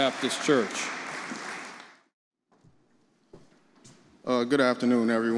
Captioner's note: audience applauding